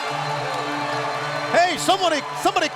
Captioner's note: crowd cheering